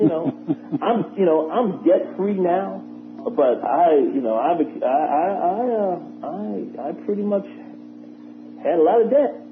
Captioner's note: laughter